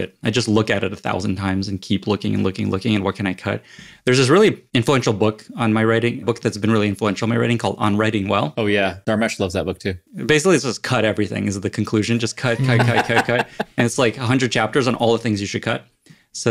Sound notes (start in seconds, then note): 12.4 laugh